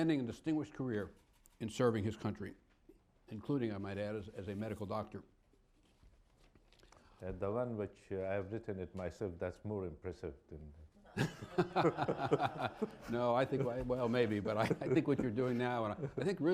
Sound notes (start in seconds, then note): 11.1 laughter